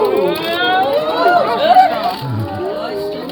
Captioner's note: OOOOs & AHHHs